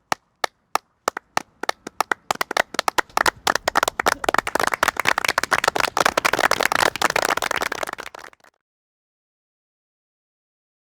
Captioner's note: applause